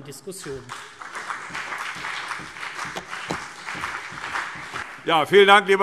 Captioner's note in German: Beifall CDU und BÜNDNIS 90/DIE GRÜNEN